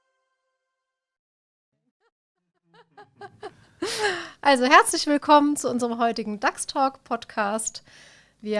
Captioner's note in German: lacht